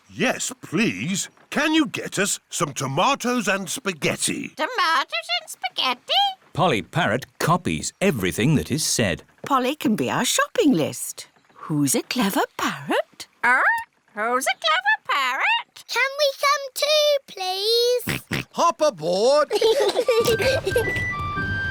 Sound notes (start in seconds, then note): 18.1 snorts; 19.4 peppa and george giggling